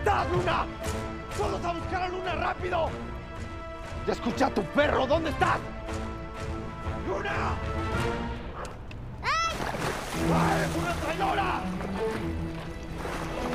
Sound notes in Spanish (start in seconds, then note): 9.2 Luna grita